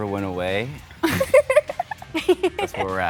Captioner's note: giggles